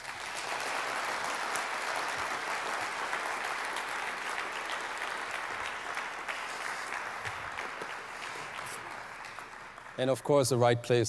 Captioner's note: applause